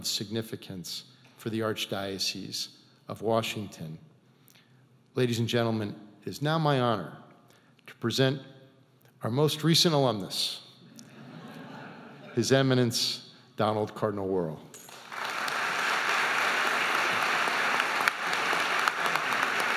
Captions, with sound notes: of significance for the Archdiocese of Washington. Ladies and gentlemen, it's now my honor to present our most recent alumnus, His Eminence Donald Cardinal Wuerl. (audience applauding)